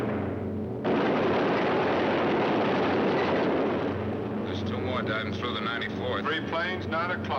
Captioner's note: gunfire